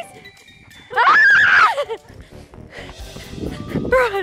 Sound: screaming; fast panting

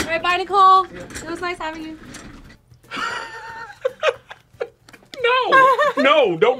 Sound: laughs

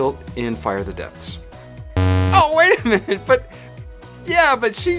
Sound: buzz

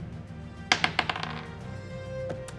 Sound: dice clattering

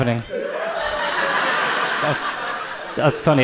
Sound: audience laughs

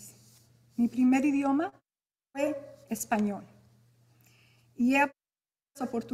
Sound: speaking in Spanish

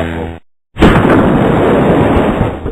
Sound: explosion

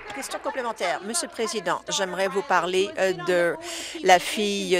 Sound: applause

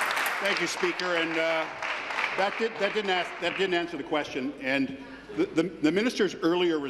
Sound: applause

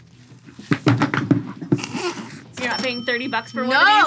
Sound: both laugh

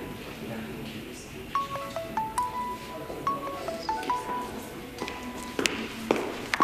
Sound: mobile ringing

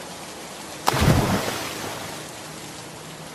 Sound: rain; splash; rain

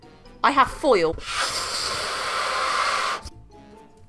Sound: loudly blows up balloon

